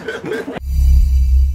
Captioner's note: woosh